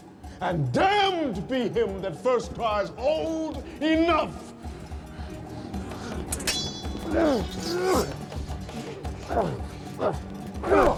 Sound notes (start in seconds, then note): 6.9 grunting